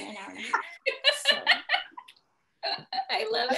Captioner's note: laughing